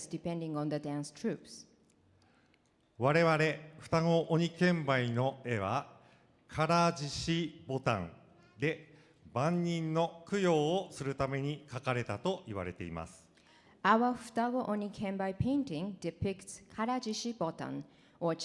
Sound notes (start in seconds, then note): 3.1 speaking foreign language